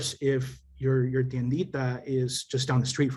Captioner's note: speaking Spanish